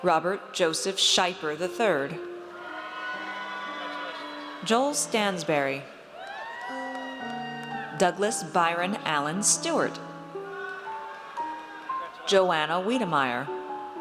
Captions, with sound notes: Robert Joseph Scheiper III. (audience cheers) Joel Stansbury. (audience cheers) Douglas Byron Allen Stewart. Joanna Wedemeyer.